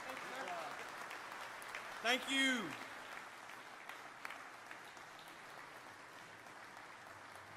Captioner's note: applause